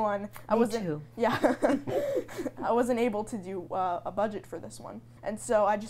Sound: laughs; everyone laughs

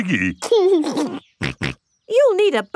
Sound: giggles and snorts

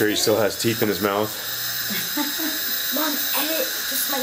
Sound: laughing

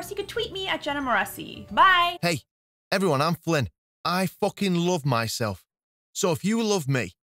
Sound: flippant Male Voice

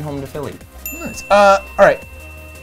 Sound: bell dings

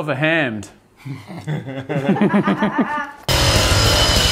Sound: all laugh

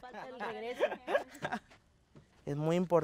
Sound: laughs; speaks Spanish

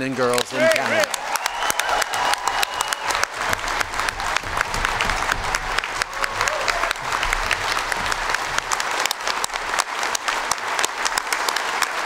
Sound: cheers & Applause

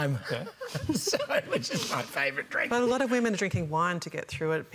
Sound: laughter

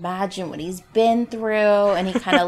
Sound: laughs

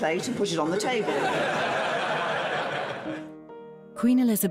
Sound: audience laughing

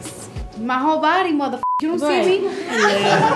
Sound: beep

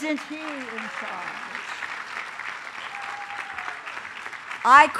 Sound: applause

